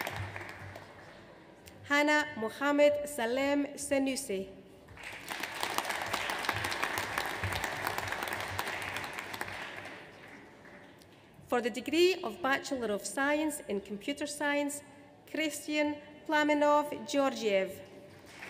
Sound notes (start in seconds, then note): 4.9 audience applauds; 18.2 audience applauds